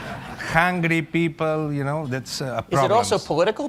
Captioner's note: laughter